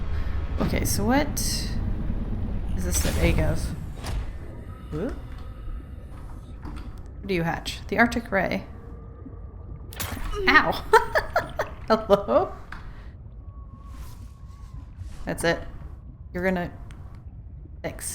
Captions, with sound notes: Okay so what is this the egg of? What do you hatch? The arctic ray... OW *laughs* Hello?! That's it... you're gonna- thanks.